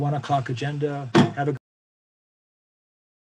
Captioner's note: thump